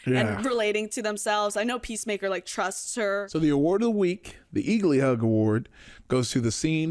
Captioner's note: none